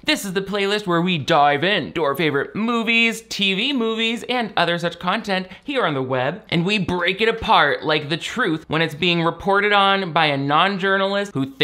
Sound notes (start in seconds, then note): none